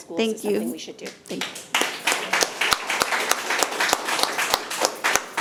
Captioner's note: audience applauding